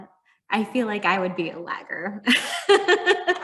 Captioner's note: chuckling